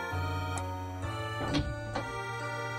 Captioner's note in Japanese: 扉の開く音：ガッチャン